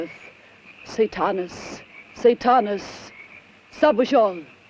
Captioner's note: speaks in foreign language